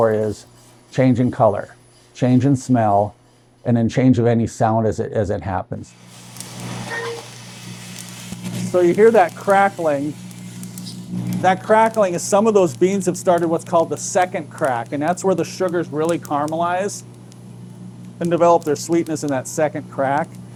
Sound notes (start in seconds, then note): 6.2 coffee beans thudding; 7.9 coffee beans crackling; 10.2 coffee beans crackling